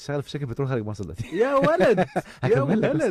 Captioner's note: cheers